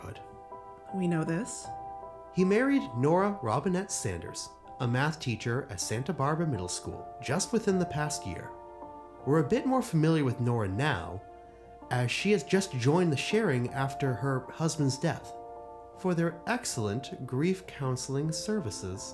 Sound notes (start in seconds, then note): none